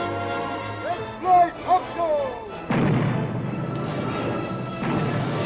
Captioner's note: cannons firing